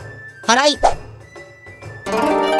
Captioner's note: sweeping